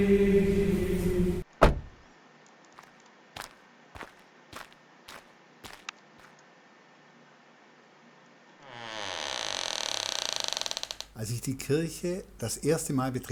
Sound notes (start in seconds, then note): 1.6 car door slams; 3.9 steps; 6.3 A door opens with a creak